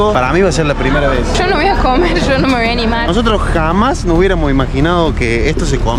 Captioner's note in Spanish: risas